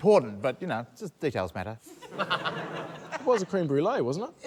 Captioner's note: laughter